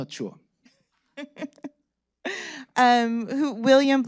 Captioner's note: laughing